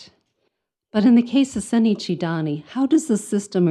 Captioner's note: speaks in foreign language